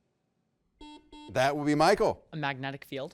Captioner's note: buzzer beeps